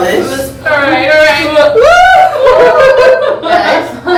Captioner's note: cheering